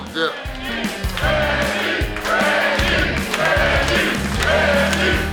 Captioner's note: audience cheering